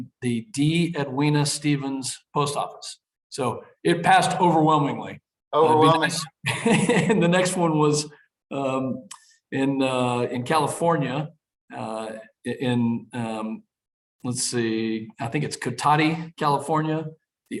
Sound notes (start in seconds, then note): 5.8 laughs